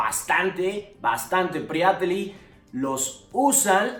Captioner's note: bulgarian